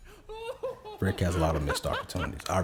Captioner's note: Rick laughs